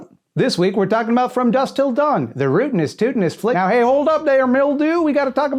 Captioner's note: cowboy voice